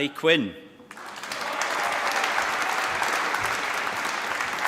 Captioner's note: applause